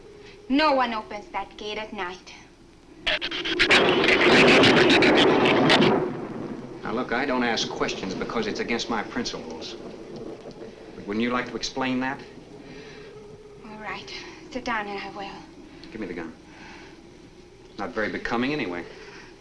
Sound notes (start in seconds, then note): 2.9 shrew chatter; 2.9 thunder claps